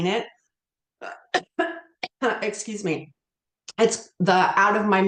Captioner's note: coughs